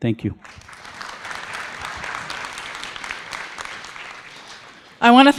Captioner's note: audience applauding